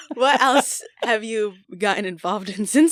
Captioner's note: laughter